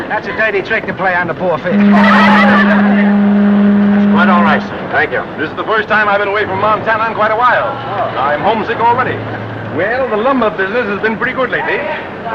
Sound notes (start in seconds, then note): 1.6 ship horn; 2.0 laughs